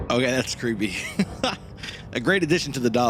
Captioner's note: laughs